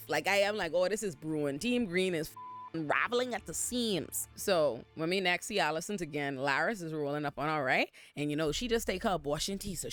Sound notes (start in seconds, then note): 2.3 beep